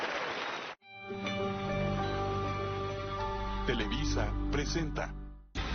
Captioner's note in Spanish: aplausos